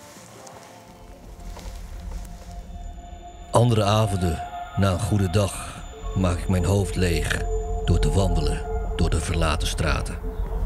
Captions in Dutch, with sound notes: [voice-over] Other nights, after a good day I empty my head by walking the abandoned streets